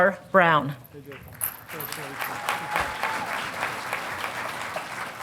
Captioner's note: audience applauding